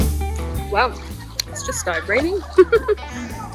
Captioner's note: chuckles